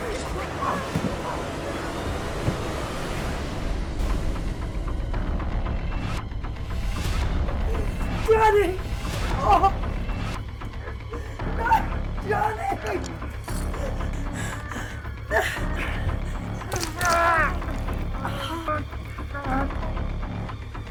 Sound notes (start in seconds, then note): 0.1 clown groans; 13.4 Sue groaning; 16.6 knife crunching into flesh; 17.3 Skull-Faced Assailant groans